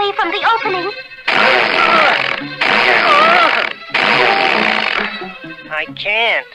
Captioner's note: Underdog struggles & sputters